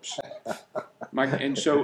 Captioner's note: laughing